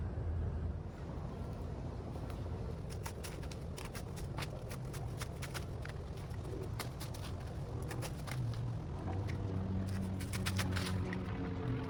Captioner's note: sawing and cutting sounds